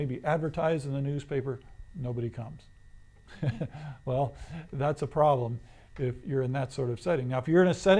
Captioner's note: laughs